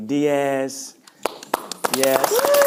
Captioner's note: audience clapping